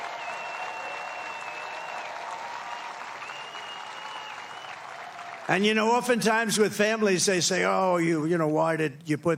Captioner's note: applause